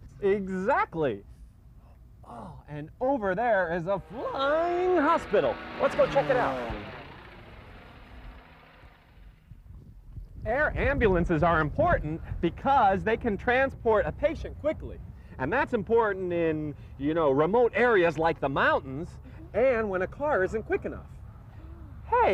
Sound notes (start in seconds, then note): 7.2 airplane engine